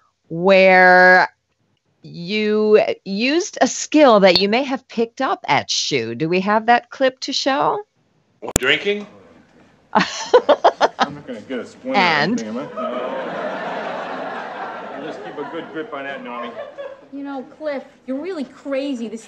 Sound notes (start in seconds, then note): 9.9 laughs; 11.9 audience laughs